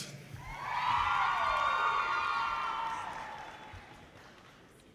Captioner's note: audience cheers and applause